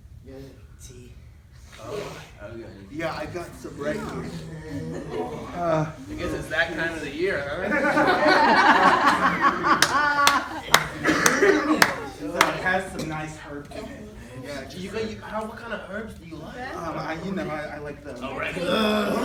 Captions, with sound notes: Do you have tea? Yeah, I've got some right here. Guess it's that time of the year, huh? (Laughter) It has some nice herbs in it. Do you - what kind of herbs do you like? - Oh, you know, I like the... - Oregano.